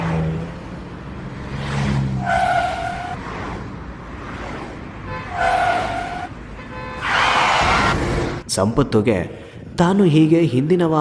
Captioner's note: vehicle sounds